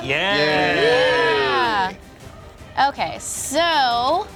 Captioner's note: cheering